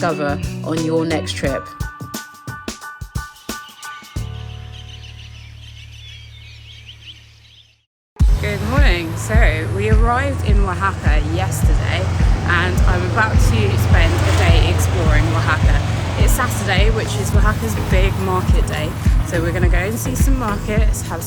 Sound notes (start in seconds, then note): 2.0 bright music; 3.3 birds chirping